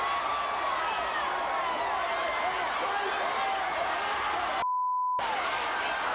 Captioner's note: crowd cheering; Ric yelling; beep; crowd cheering